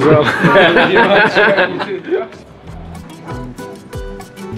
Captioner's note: laughter